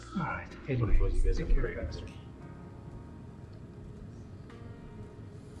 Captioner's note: people chattering